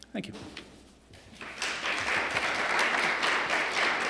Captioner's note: applause